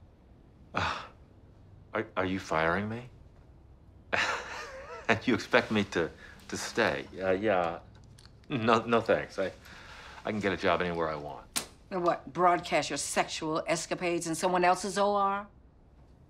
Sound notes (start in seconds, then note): 0.7 sighs; 4.1 chuckles